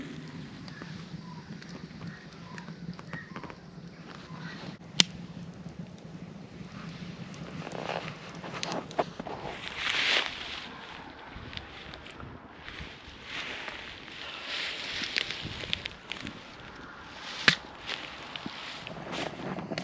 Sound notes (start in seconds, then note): 4.8 fire crackling